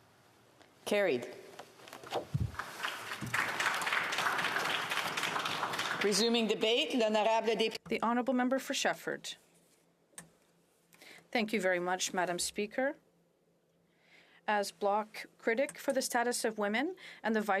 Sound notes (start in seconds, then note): 5.7 some Applause